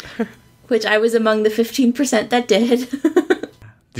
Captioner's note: laughs